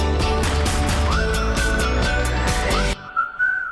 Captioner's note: pleasant music; whistling